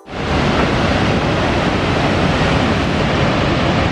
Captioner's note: sounds of the waterfalls